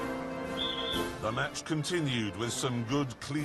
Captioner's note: whistle